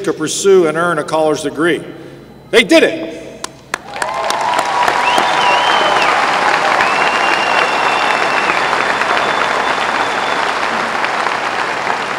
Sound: applause

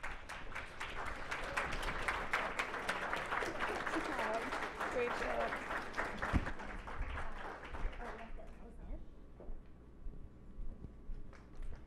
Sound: clapping

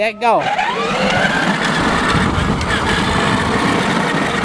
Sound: motorcycle noise

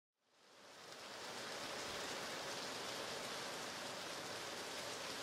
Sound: pitter-patter of rain

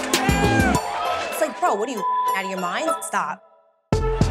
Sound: beep

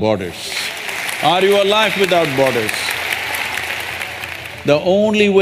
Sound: applause

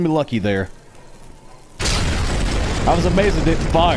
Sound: armoured car exploding

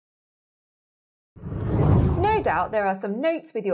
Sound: scene whooshes

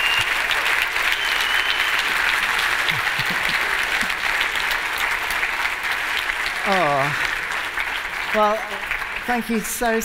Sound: cheering and applause

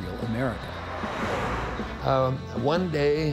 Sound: car vrooms

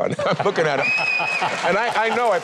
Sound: laughing; audience whistling

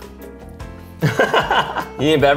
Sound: laughing

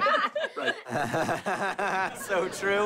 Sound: laughing

